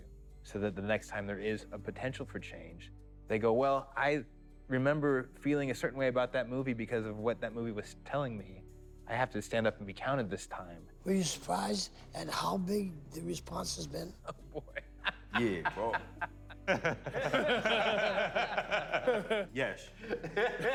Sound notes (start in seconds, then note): 13.9 laughs; 16.8 all laughing